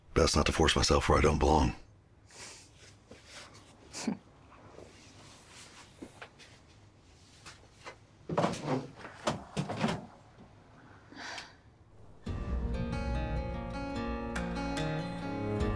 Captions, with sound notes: - Best not to force myself where I don't belong. (Tallulah chuckles) (door opening) (tense exciting music)